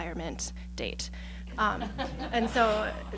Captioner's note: laughing